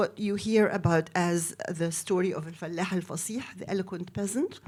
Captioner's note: speaks in foreign language